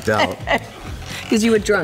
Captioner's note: laughter